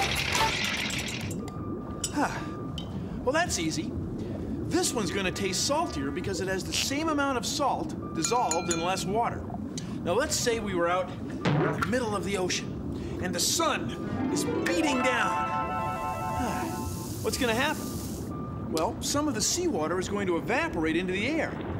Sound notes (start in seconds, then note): 2.1 sighs